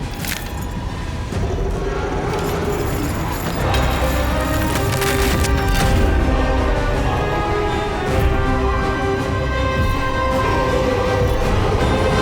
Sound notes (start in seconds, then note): 0.0 metal clinks; 1.6 Elven King growls; 3.7 dramatic music